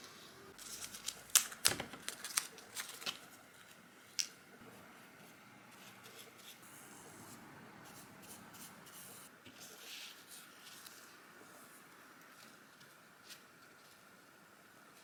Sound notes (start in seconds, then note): 0.6 paper crackling; 4.7 light brush strokes